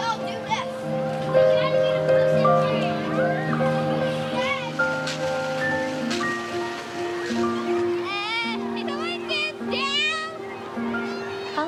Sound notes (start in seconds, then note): 1.9 children murmuring; 1.9 intense instrumental music